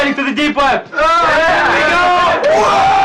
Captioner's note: shouting agreement in unison